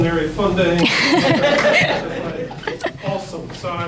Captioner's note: audience laughs